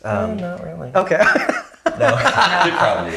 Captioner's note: laughing